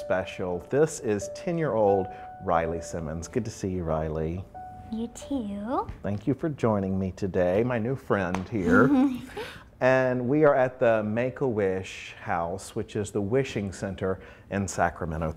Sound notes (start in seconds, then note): 8.6 laughs